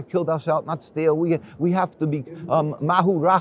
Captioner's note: speaks foreign language